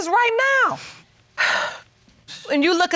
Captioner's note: sighs